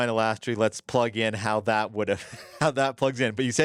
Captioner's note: laughs